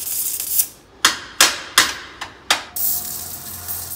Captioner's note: hammer noise